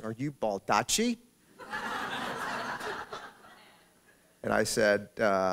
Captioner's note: laughter